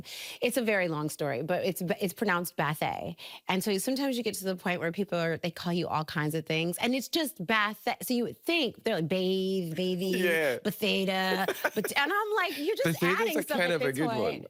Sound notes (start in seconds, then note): 11.3 laughing